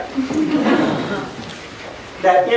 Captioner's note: laughter